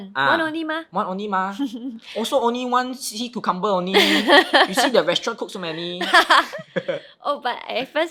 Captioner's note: laughs